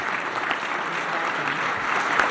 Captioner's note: applause